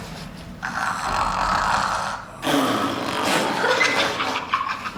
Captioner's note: snoring noises